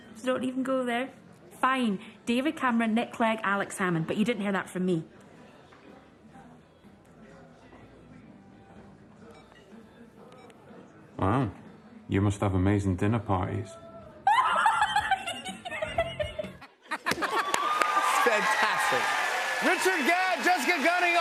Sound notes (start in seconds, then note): 9.3 beeping; 14.2 laughs